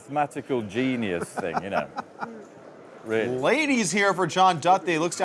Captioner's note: laughing